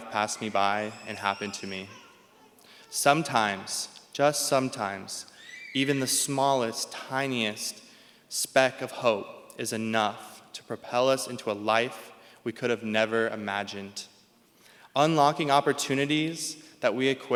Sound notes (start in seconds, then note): none